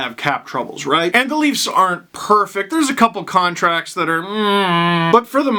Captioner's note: disgruntled noise